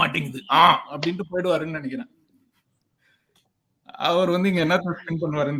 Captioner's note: laughs